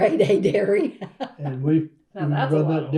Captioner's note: laughs